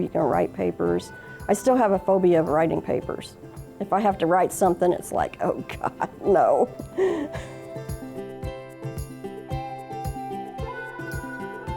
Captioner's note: laughs